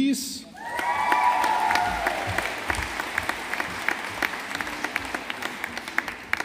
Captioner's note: audience applauding